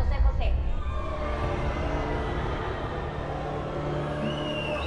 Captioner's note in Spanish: Exclamaciones y abucheos